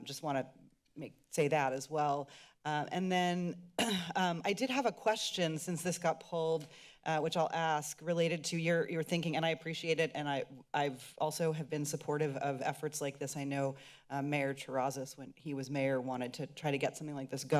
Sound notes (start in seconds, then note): 3.5 clears throat